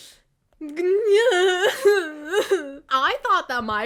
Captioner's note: crying